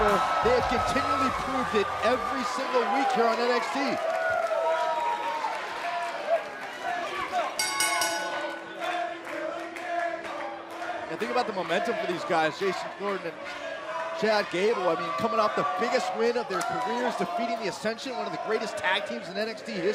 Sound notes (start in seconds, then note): 5.3 crowd chatter; 7.6 bell ringing; 9.8 crowd chatter